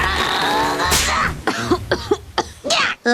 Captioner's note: grunts; snap; coughing